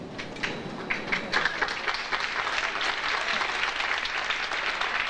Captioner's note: audience applauding